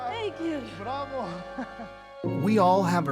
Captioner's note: chuckles